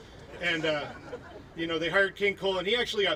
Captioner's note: laughing